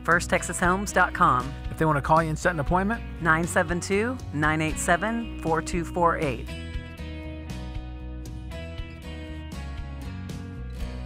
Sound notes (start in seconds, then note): 1.9 voiceover; 6.4 mellow country music